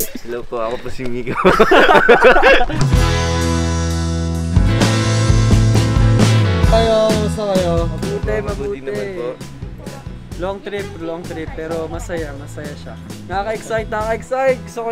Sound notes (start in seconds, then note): 1.2 laughter